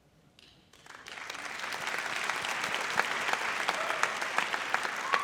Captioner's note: audience applauds